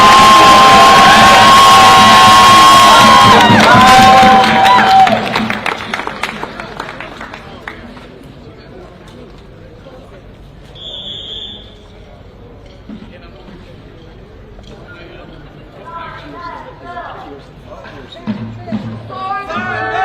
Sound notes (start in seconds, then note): 7.8 applause; 7.8 whistle